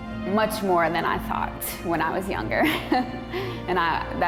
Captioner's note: laughing